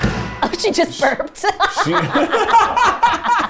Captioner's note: laughs